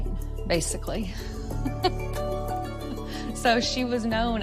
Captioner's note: laughs